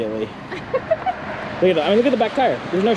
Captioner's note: giggling